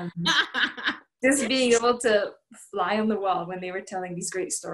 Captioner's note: laughter